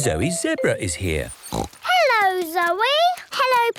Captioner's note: snorts